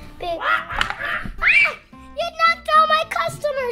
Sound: Adley squealing; monkeys chattering

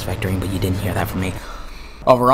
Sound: intensely breathes

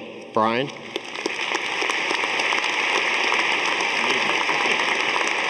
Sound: audience applauding

